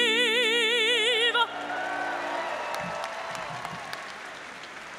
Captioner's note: audience applauds